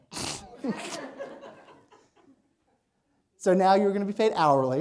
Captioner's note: laughter